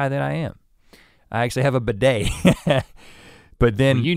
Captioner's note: laughs